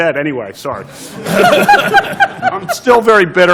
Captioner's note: laughter